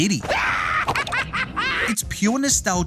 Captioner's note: laughing